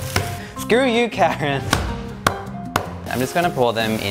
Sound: pounding

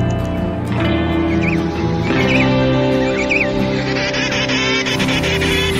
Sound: birds chirping

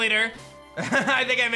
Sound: laughs

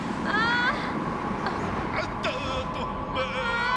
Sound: non-english speech

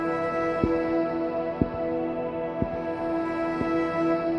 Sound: foot steps

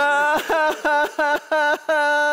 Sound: they are crying

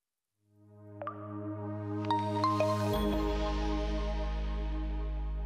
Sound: logo chiming

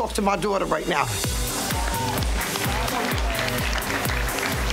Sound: crowd applauding

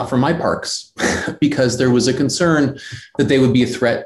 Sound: laughs

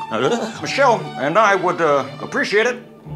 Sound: Obama impression

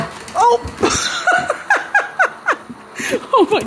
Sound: laughs

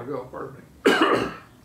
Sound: coughs

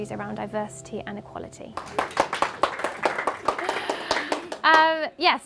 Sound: clapping

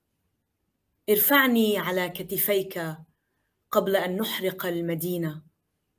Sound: speaking in foreign language

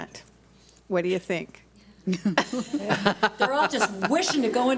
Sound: board laughs

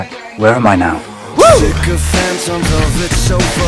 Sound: goes WHOA

